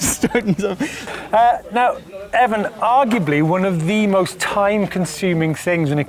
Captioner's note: chuckles